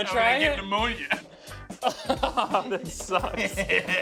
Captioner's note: laughs